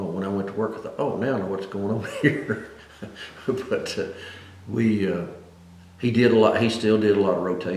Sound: laughs

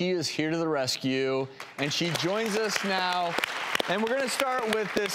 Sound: audience applauding

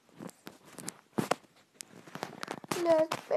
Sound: Smashing His IPad

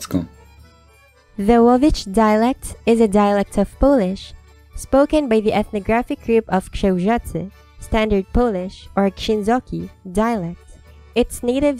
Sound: standard Polish

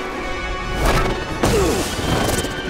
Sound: grunting

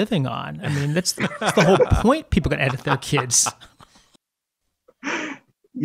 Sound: laughter

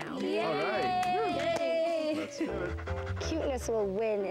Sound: mixed cheers

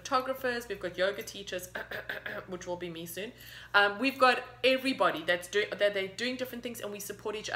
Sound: cough cough!

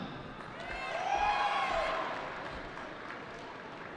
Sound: cheering

